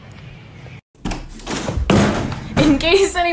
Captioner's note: door opening and crashing